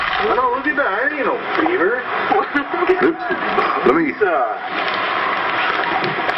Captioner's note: eerie music; group talking indistinctly